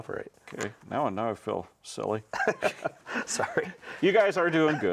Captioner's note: laughs